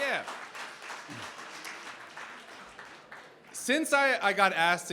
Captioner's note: applause